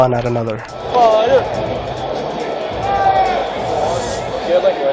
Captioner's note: crowd noise